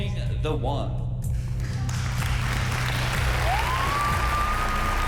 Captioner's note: cheers, applause